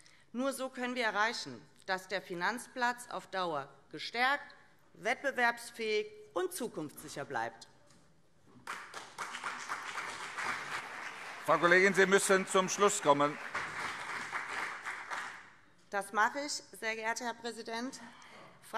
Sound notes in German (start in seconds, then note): 8.6 Beifall CDU und SPD